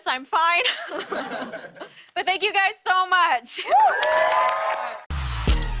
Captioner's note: cheers and applause